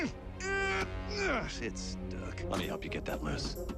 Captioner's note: grunting